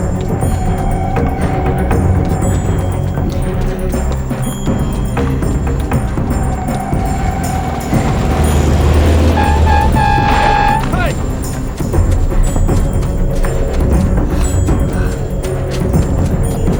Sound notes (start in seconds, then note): 8.9 horn honking